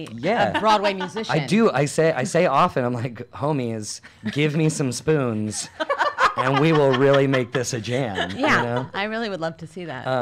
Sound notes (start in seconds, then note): 0.3 laughs; 5.5 laugh